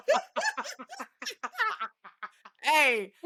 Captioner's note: laughing